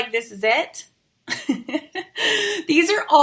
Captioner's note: giggles